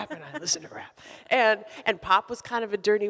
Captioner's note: laughs